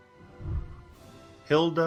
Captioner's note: whooshing